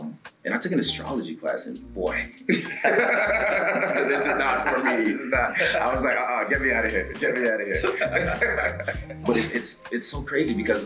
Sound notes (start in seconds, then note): 2.4 laugh